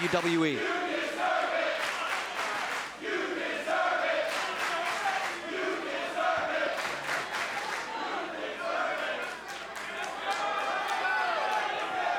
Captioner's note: crowd cheering